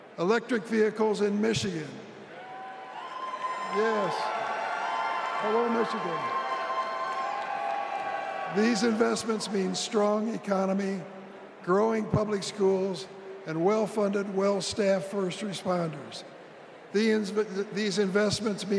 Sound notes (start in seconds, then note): 8.0 applause